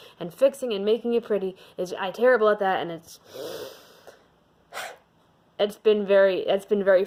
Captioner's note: frustrated inhale